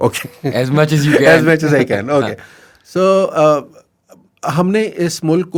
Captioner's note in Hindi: हंसी